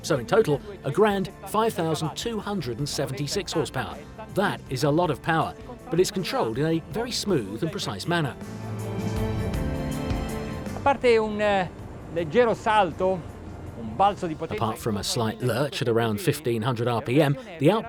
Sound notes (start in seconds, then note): 8.7 serene music; 10.9 speaking in foreign language